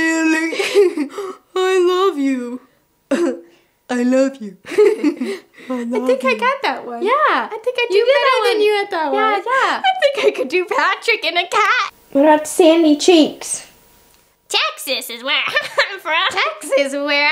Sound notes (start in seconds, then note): 4.6 chuckles; 4.6 giggles